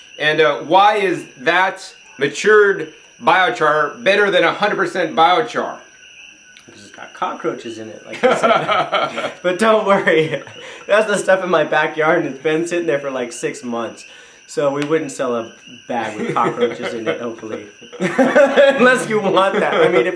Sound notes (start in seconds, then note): 8.0 laughs loudly; 16.0 chuckles